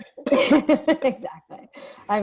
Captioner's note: laughing